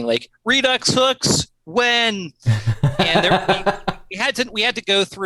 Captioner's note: laughter